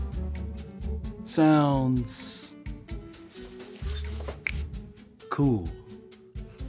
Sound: fingers snap

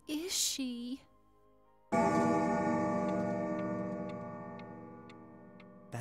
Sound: clock chimes

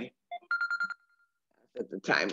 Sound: phone rings

